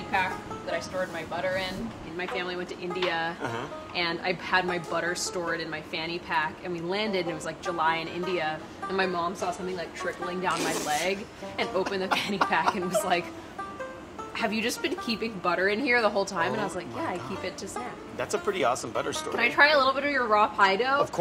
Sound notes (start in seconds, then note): 11.6 laughs